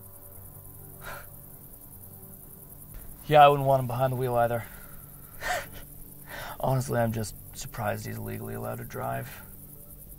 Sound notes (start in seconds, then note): 1.0 Caleb scoffs; 10.0 insects chirping